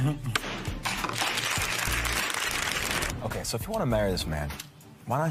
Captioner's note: applause